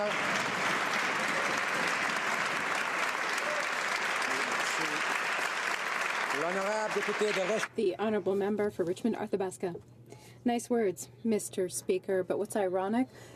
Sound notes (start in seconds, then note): 6.3 some Applause